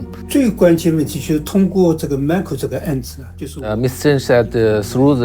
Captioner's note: speaking in foreign language